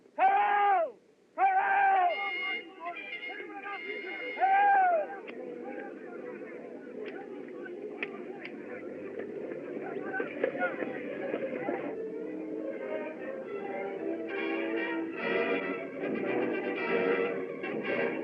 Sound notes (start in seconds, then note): 2.4 chattering, Shouting